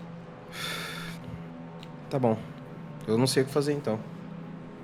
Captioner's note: exhales